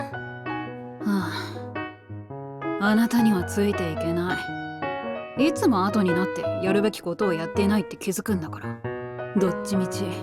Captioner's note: sigh